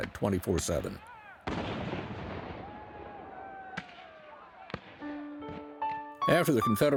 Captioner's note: cannon and gun fire